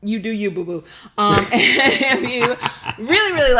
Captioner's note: both laugh